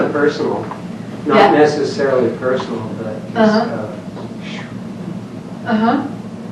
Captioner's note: blows air